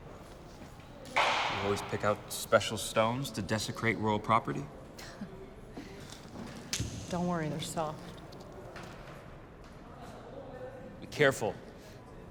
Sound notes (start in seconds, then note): 5.0 Julia laughs